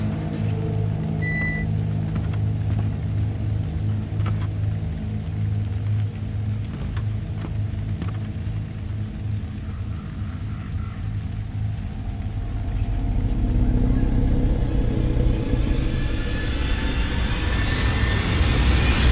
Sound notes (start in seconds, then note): 3.4 water running